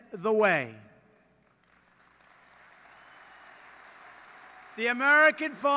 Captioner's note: applause